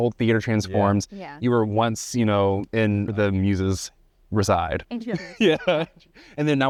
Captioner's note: laughs